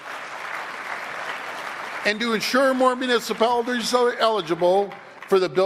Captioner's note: applause